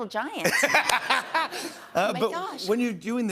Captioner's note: laughter